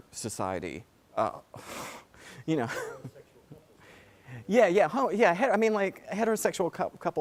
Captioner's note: laugh